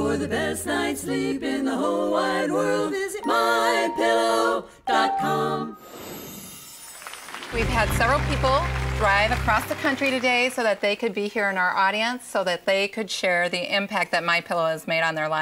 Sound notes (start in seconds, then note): 6.8 applause